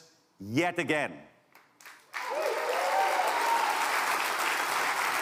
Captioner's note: applause